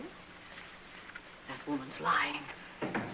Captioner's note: whispering